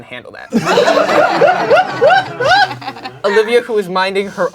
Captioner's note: crowd laughing